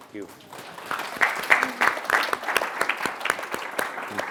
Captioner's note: applause